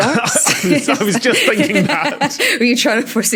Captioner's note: group laughing